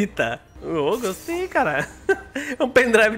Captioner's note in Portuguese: risos